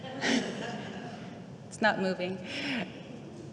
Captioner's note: audience laughing